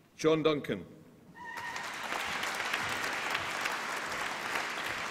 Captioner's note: applause